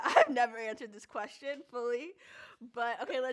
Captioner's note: laughs